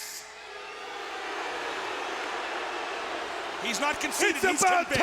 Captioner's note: crowd boos